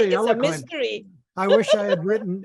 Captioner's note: laughter